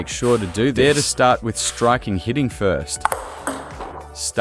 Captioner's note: hitting